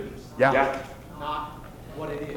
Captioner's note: voiceover